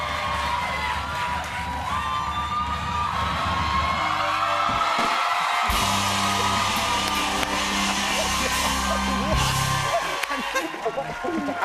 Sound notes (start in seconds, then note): 4.2 cheers and applause